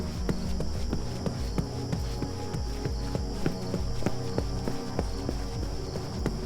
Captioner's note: tense music; footsteps thudding